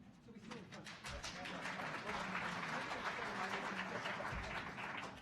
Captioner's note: audience applauding